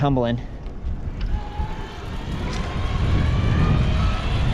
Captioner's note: motor roars